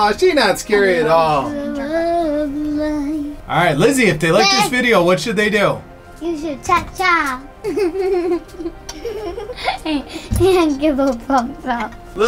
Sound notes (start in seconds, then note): 7.6 laughs